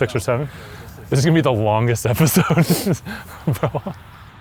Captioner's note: laughs